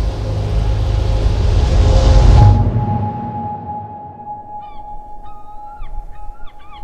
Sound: wave crashes; dramatic music continues; seagulls mewing

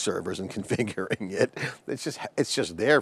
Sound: chuckles

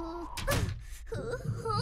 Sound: door slams; stomach growling

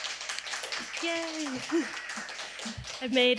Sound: audience clapping; laughs

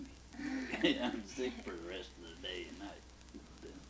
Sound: both laugh

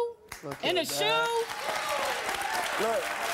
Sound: audience cheering and applause

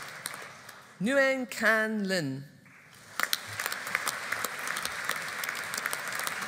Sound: audience applauding

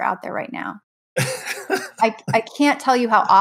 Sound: laughs

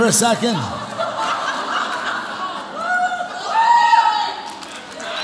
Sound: audience laughs

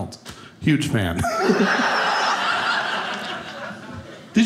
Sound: audience laughing

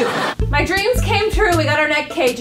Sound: laugh track

